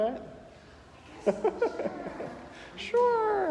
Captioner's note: laughing